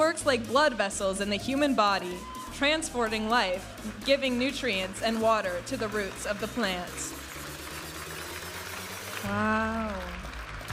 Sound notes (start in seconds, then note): 8.2 audience applauding and cheering